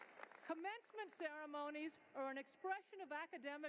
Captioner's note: cheering and applause